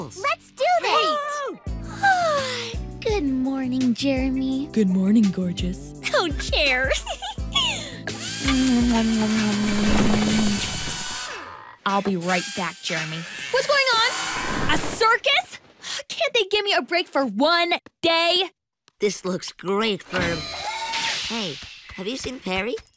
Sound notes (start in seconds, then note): 8.1 drilling; 8.4 kissing